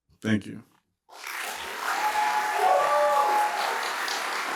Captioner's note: applause